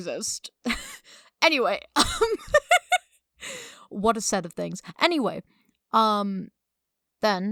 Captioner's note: laughing